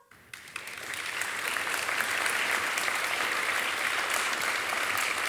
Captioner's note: audience applauding